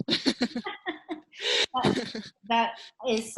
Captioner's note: giggling lightly